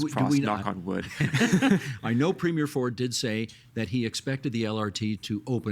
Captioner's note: laughing